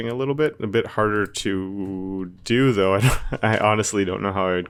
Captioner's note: laughs